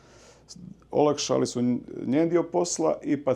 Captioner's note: none